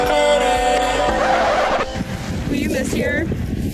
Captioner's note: record scratching